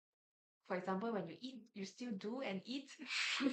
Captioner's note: everyone laughs